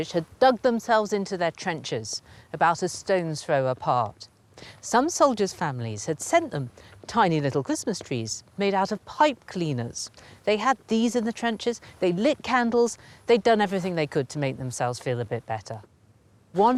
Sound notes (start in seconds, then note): none